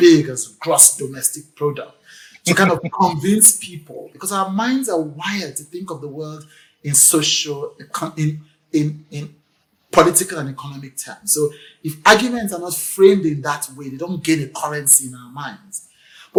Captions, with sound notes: "gross domestic product." [laughs] You cannot convince people because our minds are wired to think of the world in social, in political and economic terms. So if arguments are not framed in that way, they don't get a currency in our minds.